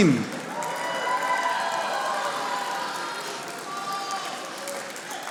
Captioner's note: audience applauding